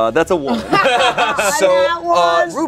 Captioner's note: everyone laughs